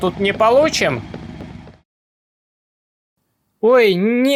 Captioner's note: silence